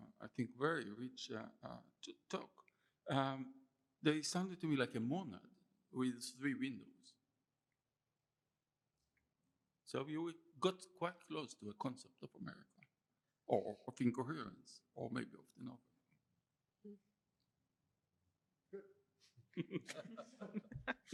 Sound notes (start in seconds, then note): 19.5 laughter